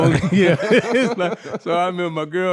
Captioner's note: laughing